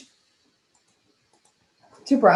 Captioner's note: mouse clicking